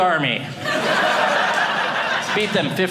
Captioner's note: audience laughing